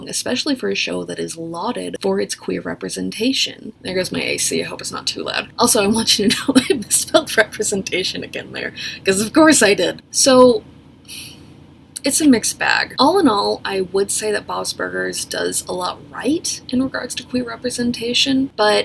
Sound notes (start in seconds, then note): 6.5 laughs; 11.0 exhales